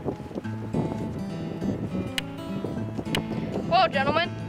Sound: hammering sounds

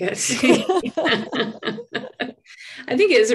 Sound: both laughing

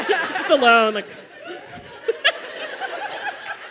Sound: laughter

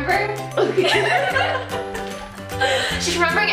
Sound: laughs

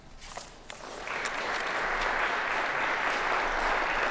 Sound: applause

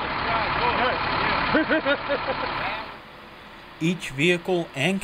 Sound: laughter

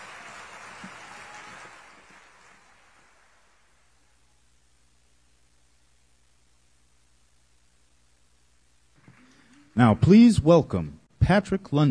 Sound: applause

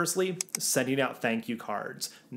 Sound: graphics clicking

